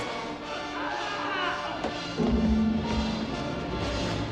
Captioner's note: screaming